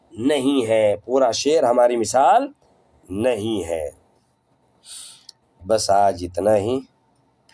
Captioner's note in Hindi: नाक से की जाने वाली आवाज़